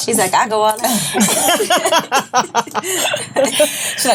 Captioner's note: laughs